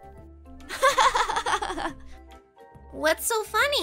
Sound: laughing

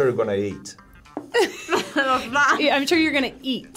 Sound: chuckles

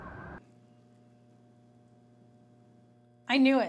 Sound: faint electrical humming

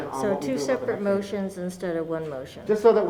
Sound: none

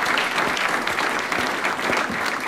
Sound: applause

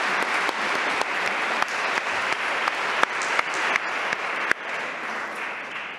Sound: applause

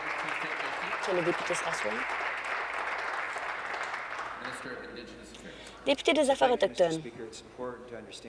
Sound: applause

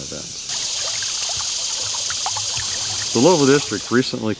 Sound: water flowing

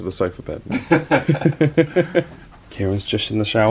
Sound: they laugh

